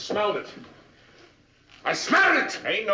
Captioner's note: yelling